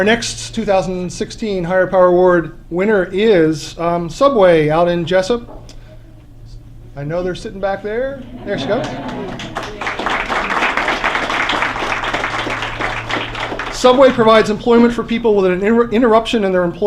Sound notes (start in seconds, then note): 8.2 laughter; 11.4 applause